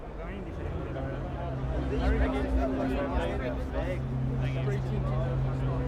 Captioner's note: fans chattering